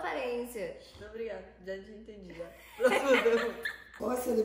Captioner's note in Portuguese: risos